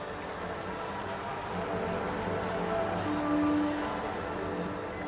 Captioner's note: cheering